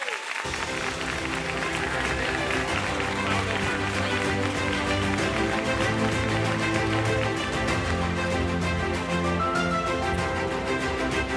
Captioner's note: applause, Music